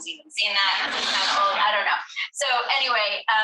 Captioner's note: all laughing